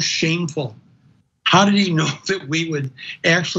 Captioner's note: laugh